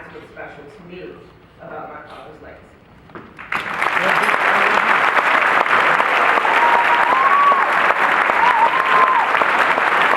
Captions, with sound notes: That's what's special to me about my father's legacy. [Cheering and clapping]